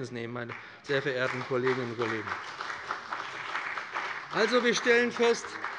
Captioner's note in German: Beifall bei dem BÜNDNIS 90/DIE GRÜNEN und der CDU